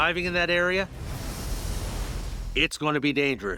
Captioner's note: wave crashes